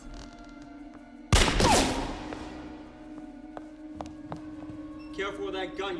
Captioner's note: floor creaks; gunshot fires